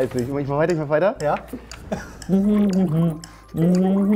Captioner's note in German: Er summt eine Melodie, Blubbern